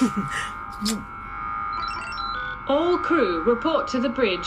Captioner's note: Solaris laughs